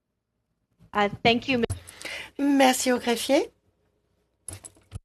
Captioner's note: speaking French